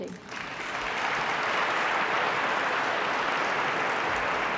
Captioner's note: applause